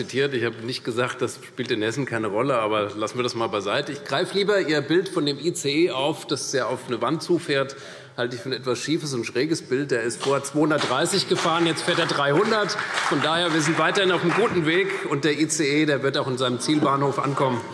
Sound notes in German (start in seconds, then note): 10.7 Beifall CDU und vereinzelt BÜNDNIS 90/DIE GRÜNEN